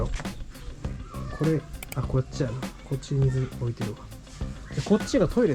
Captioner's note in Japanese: シャワー